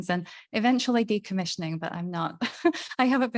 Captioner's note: laughing